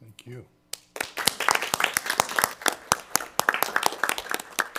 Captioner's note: people clapping